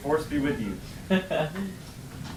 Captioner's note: laughs